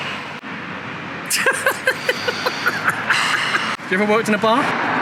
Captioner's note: laughter